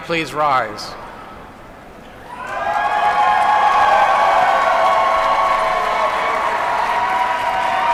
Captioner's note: applause